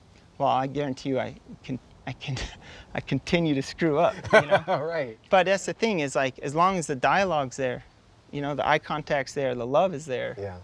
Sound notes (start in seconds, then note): 4.0 laughs